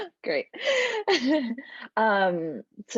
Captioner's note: laughter